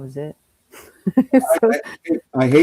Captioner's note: laughs